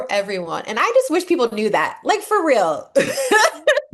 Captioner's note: laugh